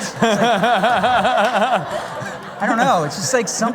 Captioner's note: laughter